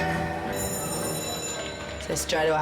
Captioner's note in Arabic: رنين الجرس